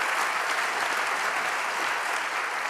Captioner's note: applause